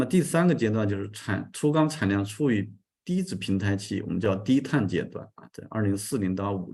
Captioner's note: continues to speak in Chinese